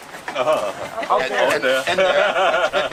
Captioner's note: laughter